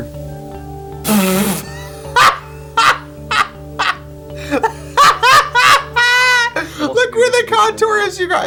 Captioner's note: laughing